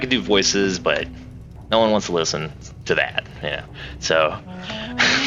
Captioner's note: laughs